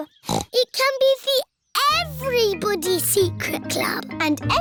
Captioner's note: snorts